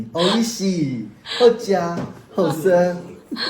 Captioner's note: Taiwanese